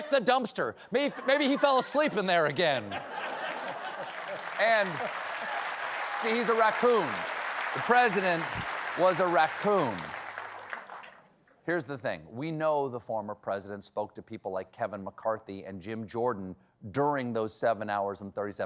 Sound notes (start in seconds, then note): 2.8 laughter; 3.1 applause